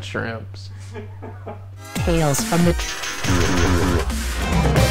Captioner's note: man laughs in background